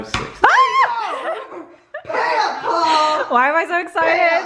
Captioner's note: laughs